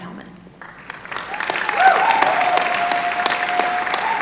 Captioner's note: applause